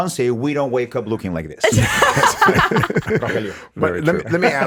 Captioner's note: laughs